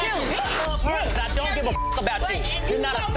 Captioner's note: beep